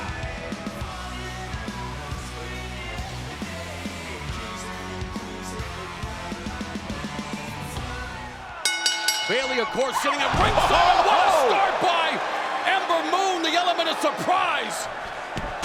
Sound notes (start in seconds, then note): 0.1 upbeat music plays; 8.6 bell rings